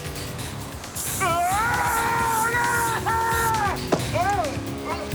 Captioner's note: screams